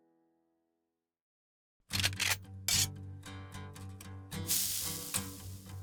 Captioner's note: sizzle; gun cocks